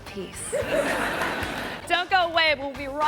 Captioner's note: audience laughing